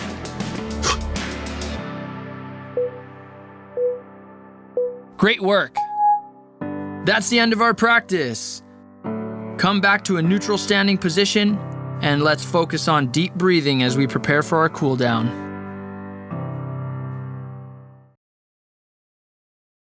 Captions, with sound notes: (sharp exhaling) (timer beeping) Great work. That's the end of our Practice. Come back to a neutral standing position, and let's focus on deep breathing as we prepare for our Cool Down.